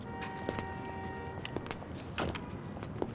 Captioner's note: honking